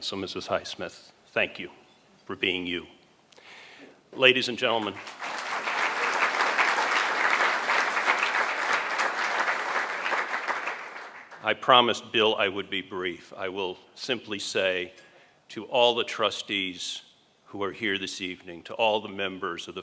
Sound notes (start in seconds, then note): 4.8 applause